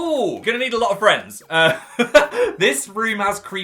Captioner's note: laughs